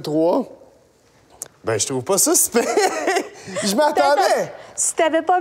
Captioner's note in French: rire